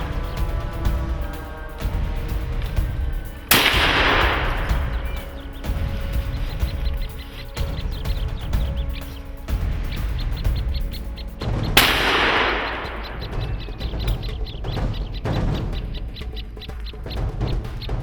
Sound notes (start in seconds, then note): 3.5 gunshot; 11.7 gunshot; 14.5 dramatic music